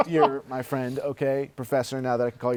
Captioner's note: laughs